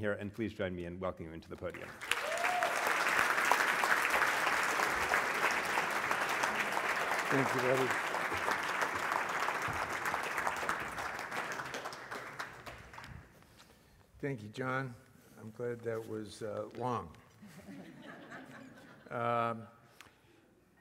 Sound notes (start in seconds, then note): 5.4 applause; 17.5 laugh